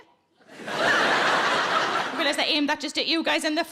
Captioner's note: audience laughing